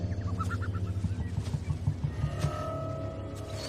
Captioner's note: birds chirping